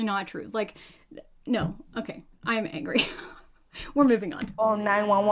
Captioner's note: laughs